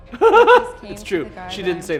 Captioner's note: laughing